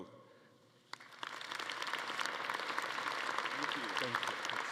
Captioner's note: everyone applauding